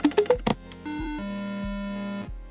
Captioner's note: error noise